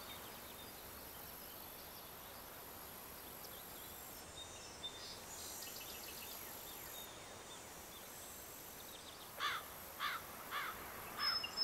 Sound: birds singing and sounds of nature

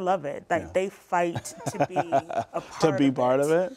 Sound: laughter

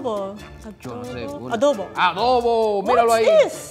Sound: speaking in foreign language

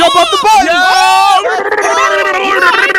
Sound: all screaming

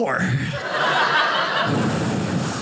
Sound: audience laughing

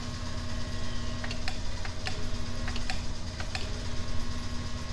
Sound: switch clicks off and on repeatedly

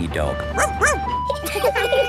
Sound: barks; laughing; sirens sounding

